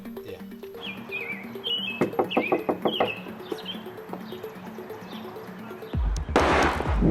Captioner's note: bird chirping; knuckles rapping; gunshot blasts